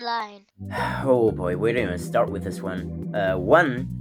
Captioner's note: sigh